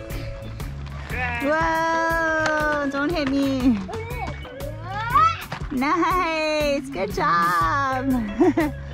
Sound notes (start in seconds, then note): 8.1 laughs